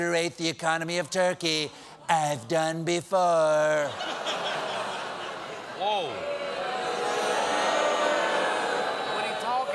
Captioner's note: audience reacts